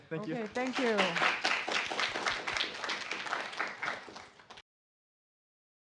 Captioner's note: applause